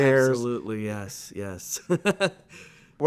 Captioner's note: laughs